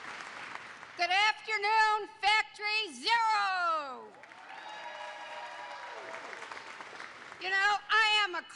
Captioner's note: applause